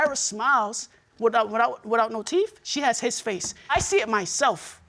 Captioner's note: stammering